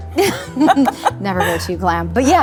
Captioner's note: chuckle